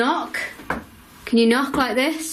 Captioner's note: knocking